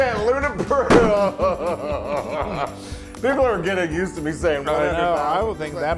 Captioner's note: laugh